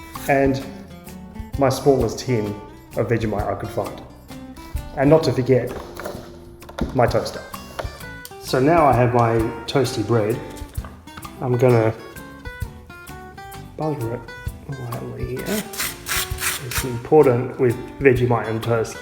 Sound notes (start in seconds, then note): 15.4 knife scraping